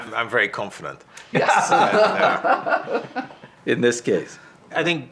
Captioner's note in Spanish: risas